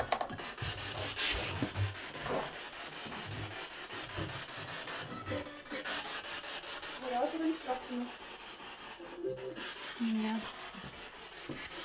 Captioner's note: sound of the Spirit Box in the background